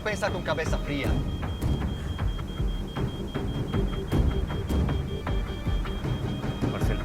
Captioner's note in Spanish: Sigue sonando la alarma